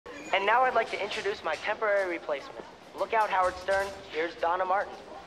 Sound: over P.A

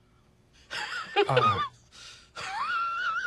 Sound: nervous laughter

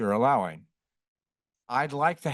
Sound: pause

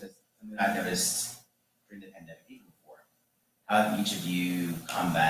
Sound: faintly speaking

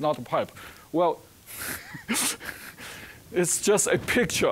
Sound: chuckling

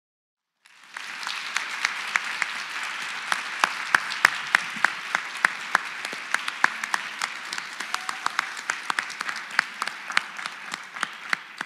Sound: applause

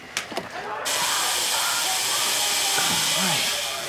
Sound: drill buzzing

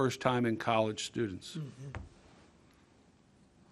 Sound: clearing throat

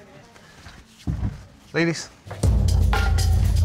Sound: door opens; club music starts playing

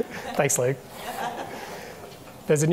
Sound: people chuckle

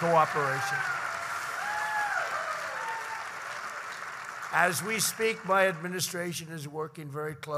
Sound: applause

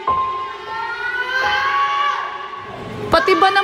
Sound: screams

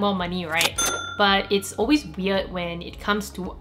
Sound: kaching sound

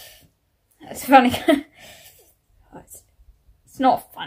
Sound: self-depricating laugh

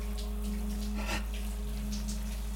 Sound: gasps

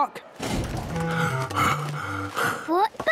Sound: Daddy Pig panting

